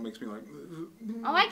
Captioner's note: vomiting sound